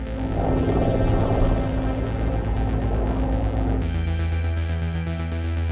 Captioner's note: plane engines hum overhead